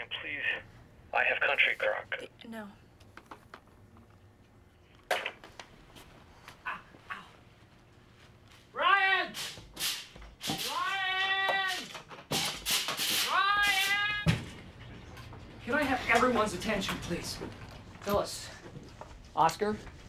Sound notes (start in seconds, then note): 3.6 receiver hangs up; 11.5 blinds rattling